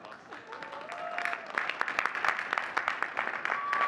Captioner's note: audience cheering and clapping; faintly speaking; audience cheering and clapping